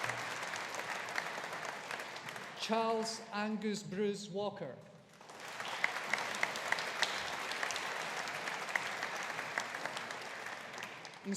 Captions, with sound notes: Charles Angues Bruce Walker. (AUDIENCE APPLAUDING)